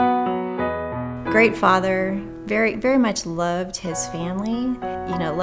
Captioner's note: soft piano music; voiceover